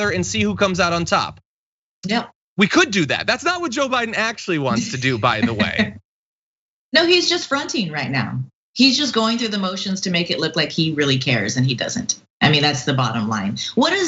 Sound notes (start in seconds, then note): 5.5 laugh